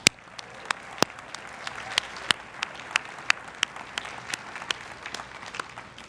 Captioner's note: everyone cheering and applauding